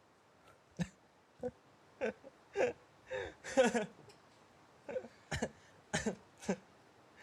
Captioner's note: laughing